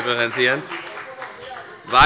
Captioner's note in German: Heiterkeit und Beifall von der FPD - Zurufe von der SPD